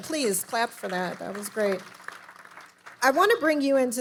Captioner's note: audience applauding